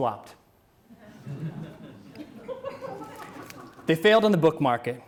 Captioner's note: audience laughs